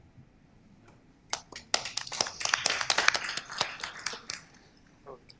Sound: applause

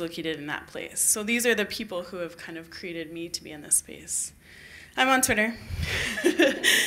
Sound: laughter

